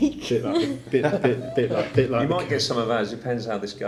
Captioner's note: laughing